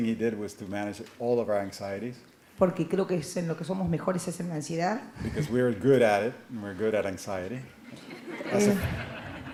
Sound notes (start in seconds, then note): 3.6 Spanish language; 7.9 laughter